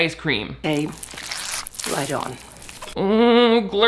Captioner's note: food squelching